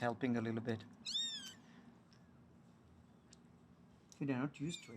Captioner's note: kitten mews